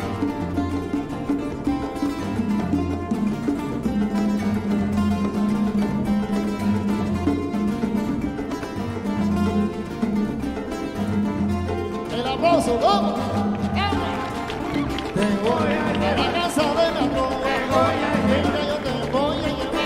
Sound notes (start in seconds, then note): 12.5 speaking foreign language; 15.5 singers singing in foreign language; 19.6 audience applauding